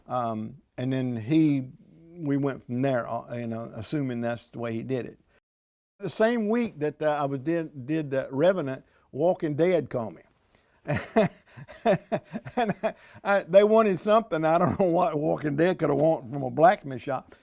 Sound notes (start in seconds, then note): 9.3 laughing